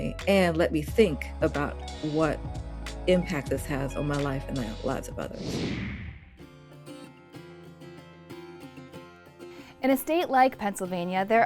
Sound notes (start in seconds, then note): 5.2 computer whooshing; 6.6 upbeat playful music